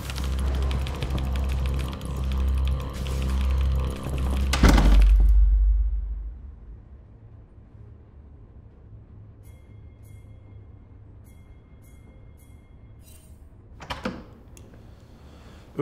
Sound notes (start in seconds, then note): 4.3 door clicking; 9.4 bell ringing